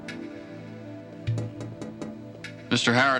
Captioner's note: tapping at window